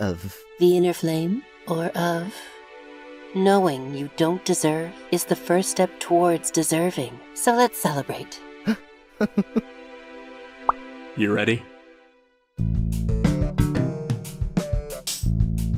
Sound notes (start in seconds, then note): 9.2 Silver Spoon laughs; 11.2 remix of theme plays